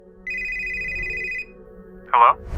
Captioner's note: phone ringing